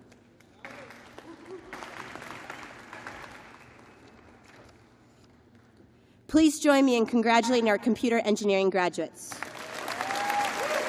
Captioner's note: applause